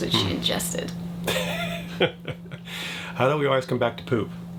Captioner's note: laughs